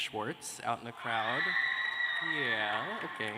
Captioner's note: cheers and applause